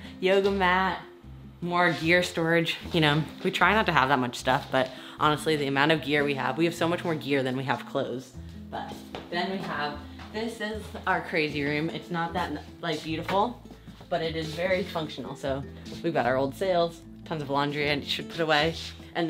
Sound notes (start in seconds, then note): none